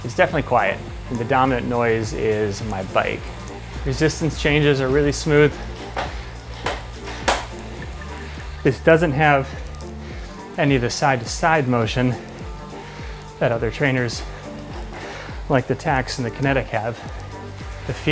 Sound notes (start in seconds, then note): 5.4 trainer clicks